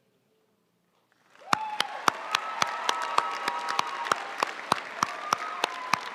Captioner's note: audience cheering and applauding